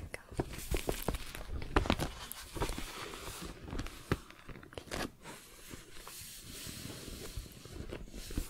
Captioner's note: book shuffling